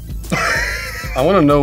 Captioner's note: laughs